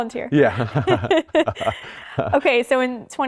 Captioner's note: both laugh